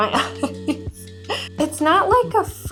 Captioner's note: laughs